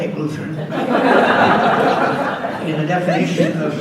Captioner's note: audience laughs